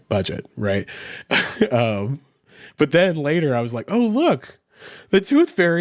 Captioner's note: chuckles